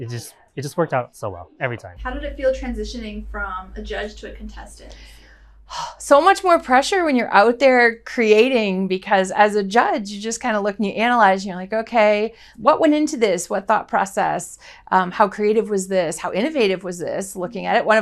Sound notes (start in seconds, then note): 5.8 sighs